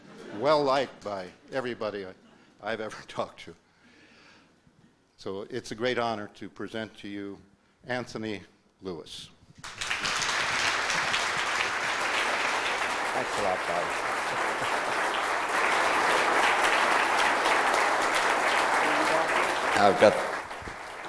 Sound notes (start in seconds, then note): 9.6 audience applause